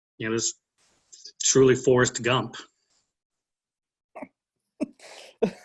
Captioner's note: laughs